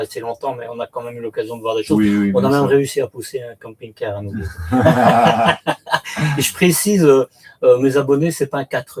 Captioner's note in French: rires